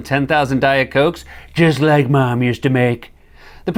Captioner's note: As Trump